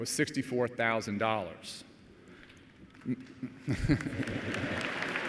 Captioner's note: applause